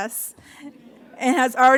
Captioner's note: audience laughs